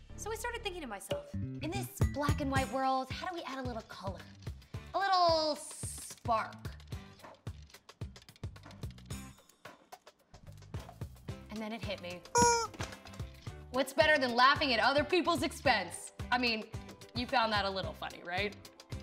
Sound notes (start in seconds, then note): 12.3 squeak